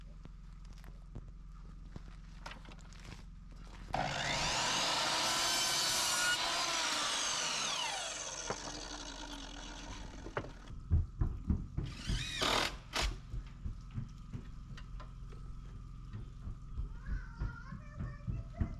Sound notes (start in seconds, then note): 8.6 drill whirring; 13.1 footsteps